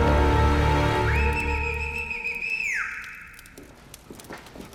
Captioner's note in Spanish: Chiflido